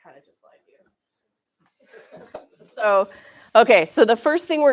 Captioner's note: laughter